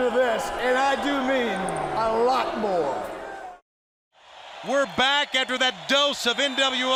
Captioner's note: crowd cheering